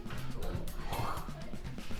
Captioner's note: hocking noise